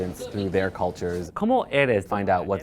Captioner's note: speaking spanish